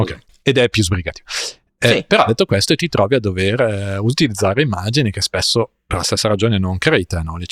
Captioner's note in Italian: sbuffare